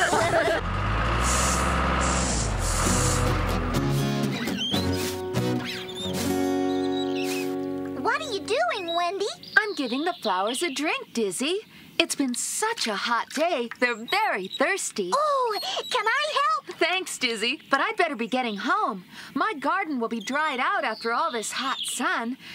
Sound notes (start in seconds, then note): 0.0 engine Running